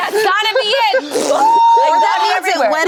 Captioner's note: screams